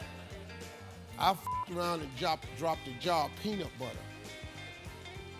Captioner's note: beeping; funky music